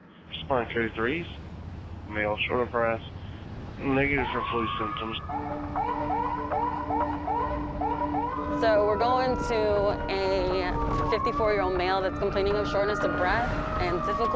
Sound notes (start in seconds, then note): 4.6 sirens